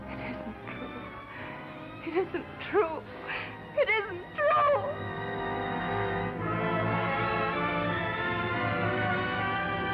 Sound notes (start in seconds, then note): 0.2 whispering; 4.2 yelling